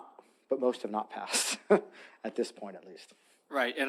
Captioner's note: chuckles